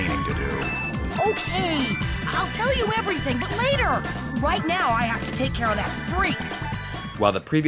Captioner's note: game audio